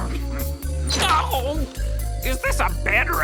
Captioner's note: cries out